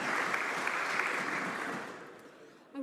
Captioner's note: some Applause